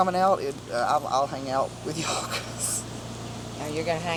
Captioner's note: laughs